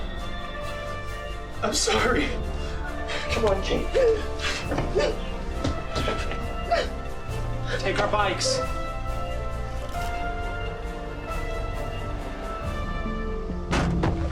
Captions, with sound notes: - I'm sorry. Come on, Kate. (Kate whimpers) - Take our bikes. (dramatic instrumental music)